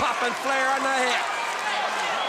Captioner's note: crowd chatter